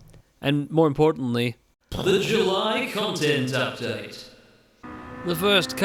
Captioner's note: pwooom